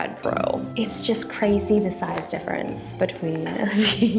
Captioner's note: chuckles